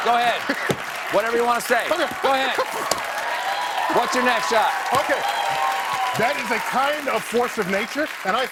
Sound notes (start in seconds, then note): 2.6 cheers